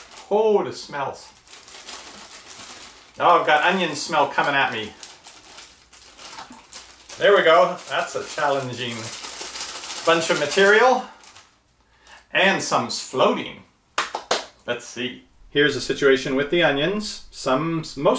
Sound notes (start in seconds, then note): 13.9 clapping hands